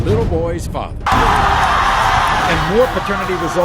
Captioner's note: audience cheering